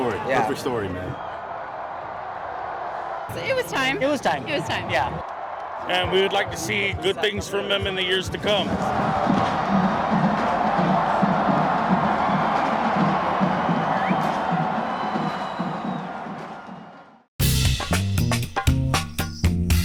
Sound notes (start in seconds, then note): 8.7 fans cheering